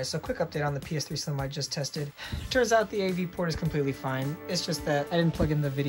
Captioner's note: sighs